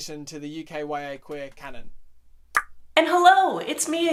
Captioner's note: tongue pops